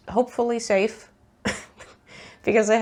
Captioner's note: laughs